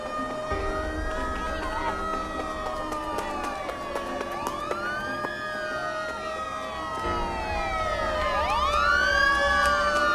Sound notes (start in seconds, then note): 4.8 sirens blaring